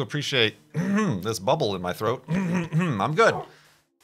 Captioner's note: coughs